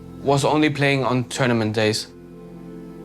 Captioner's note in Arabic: none